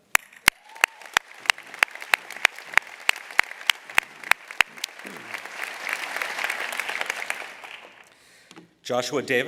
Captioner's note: applause